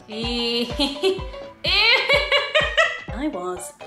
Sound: laughing

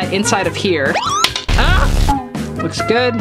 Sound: metal clanks

